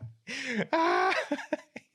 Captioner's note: laughing